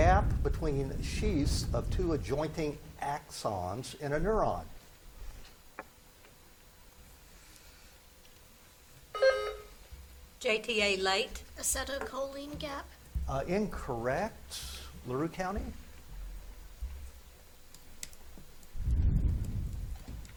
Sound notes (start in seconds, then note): 9.1 buzzer beeps